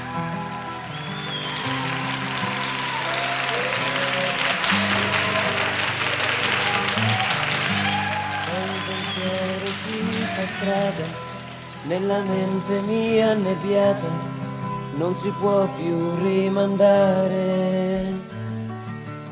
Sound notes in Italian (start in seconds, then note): 1.6 Applauso